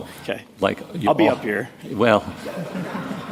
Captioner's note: laughter